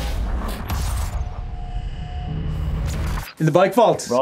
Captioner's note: electric buzzing